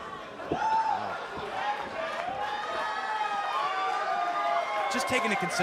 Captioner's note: cheers and applause